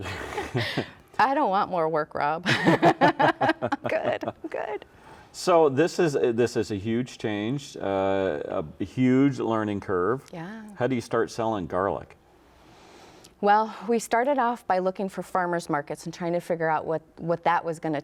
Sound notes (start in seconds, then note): 2.4 laughs